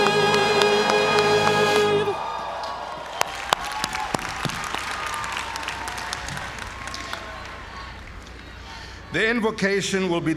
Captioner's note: applause